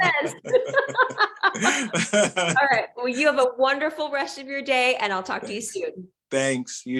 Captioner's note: laughing